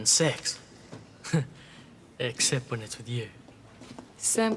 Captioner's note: laughs